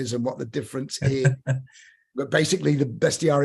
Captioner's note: laughter